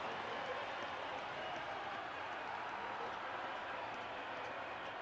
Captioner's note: cheering; pa announcement